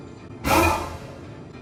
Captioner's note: suspense noise